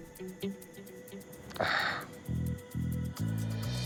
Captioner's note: sighs